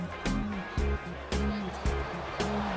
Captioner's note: cheering and applause